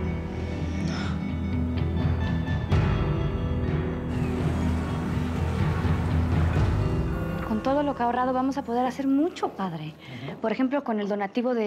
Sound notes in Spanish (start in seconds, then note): 7.3 campanadas